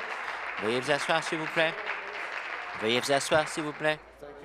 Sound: applause

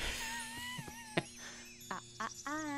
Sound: laughs

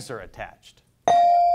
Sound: bell dings

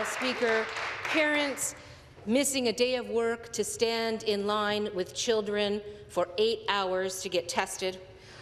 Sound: some Applause

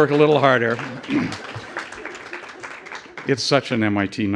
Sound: applause

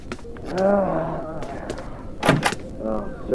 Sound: something in his room growls

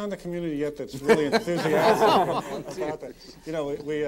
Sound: all laughing

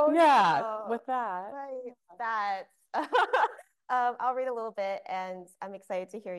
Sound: laughing

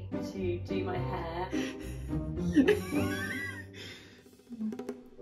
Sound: laughs

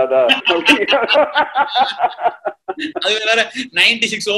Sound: laughs

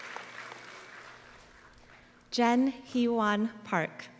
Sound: applause

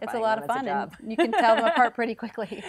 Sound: laughs

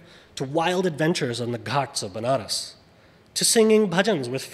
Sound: speaks foreign language

